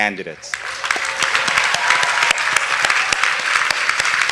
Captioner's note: audience applauding